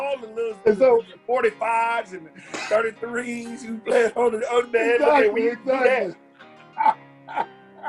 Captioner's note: laughter